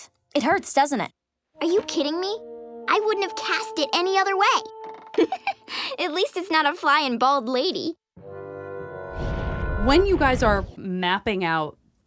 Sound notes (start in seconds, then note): 5.0 giggling; 8.2 comedic music